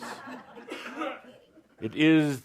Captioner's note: laughter